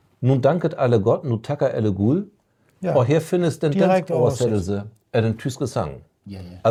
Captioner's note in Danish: på tysk